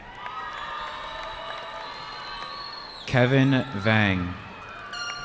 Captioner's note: cheering